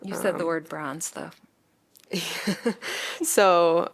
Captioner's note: laughter